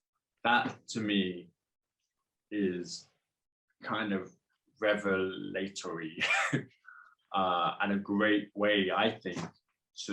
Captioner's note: laughs